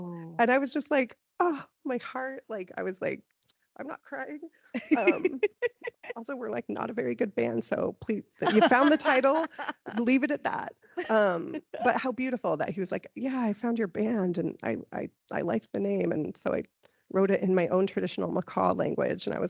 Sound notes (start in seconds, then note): 4.7 laughing